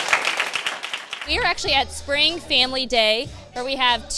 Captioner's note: applause